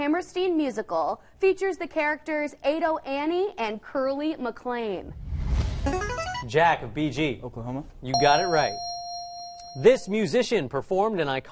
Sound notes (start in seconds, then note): 5.2 answer bell; 8.1 correct answer chime